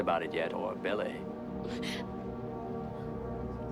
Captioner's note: sobs